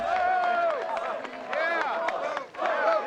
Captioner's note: people applauding